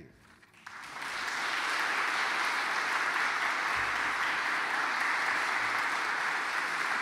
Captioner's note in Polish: oklaski